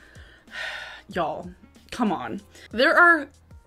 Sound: sighs

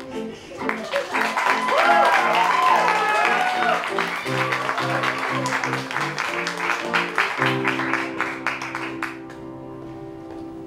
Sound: applause

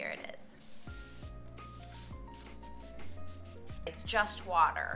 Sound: water spraying softly

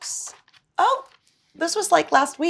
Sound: book page turns

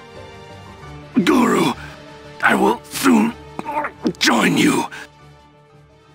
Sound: groan

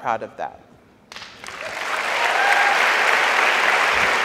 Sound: audience applauds

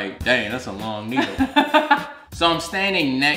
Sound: laughing

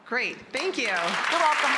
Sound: applause

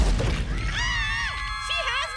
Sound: screaming

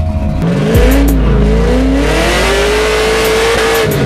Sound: revving engine

